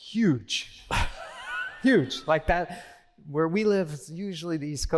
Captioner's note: laughter